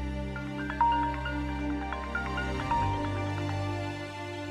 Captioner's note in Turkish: Telefon ısrarla çalıyor